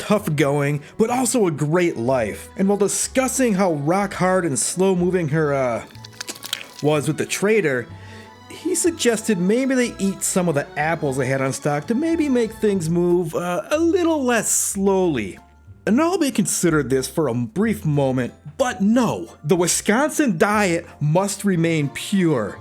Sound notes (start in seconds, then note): 5.8 wet mud sounds